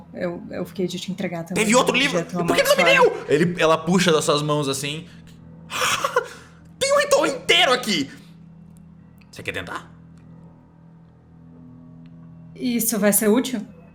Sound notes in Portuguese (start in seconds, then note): 5.7 Risada